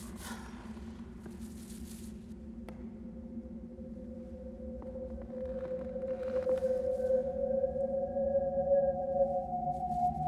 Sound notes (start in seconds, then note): 2.0 breathing heavily; 6.7 creepy music